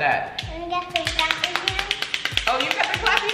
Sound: toy hands clapping loudly

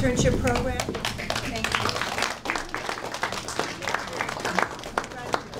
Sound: audience applauding

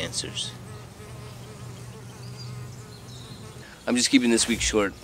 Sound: bees buzzing

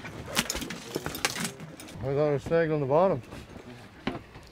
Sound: fish thrashing

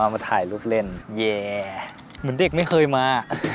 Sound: laugh

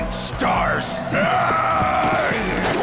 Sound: growls

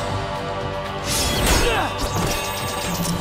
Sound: grunting

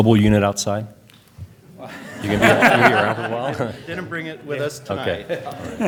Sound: laughter

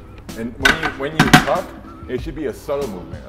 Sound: bar rattling

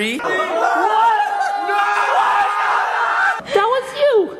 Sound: screaming and shouting

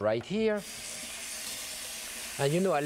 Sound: water running

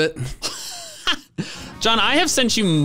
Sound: laugh

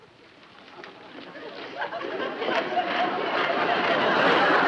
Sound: audience laughs

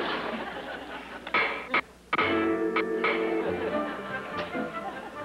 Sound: hammering sounds

